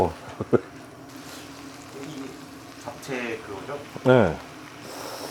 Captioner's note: sniff